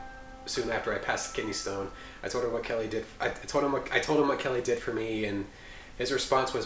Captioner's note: none